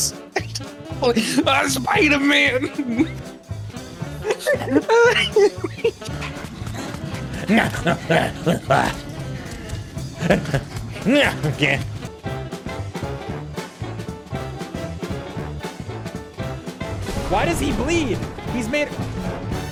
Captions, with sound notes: [laughter] Augh - Spider-Man! [laughing so hard it’s silent] [Gremlin noises] [Gremlin noises, continued] Why does he bleed? He's made of -